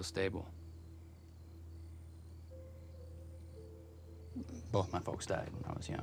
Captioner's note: crickets chirping; tense music